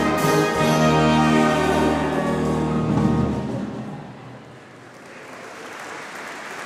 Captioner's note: applause